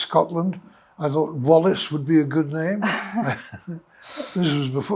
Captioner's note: chuckles